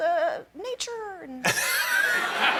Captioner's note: laughter